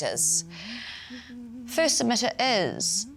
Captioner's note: humming " "